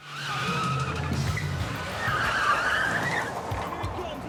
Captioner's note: car screeching